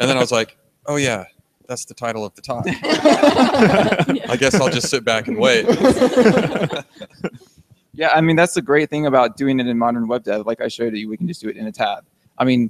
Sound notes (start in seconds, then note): 0.0 others laugh; 2.5 all laugh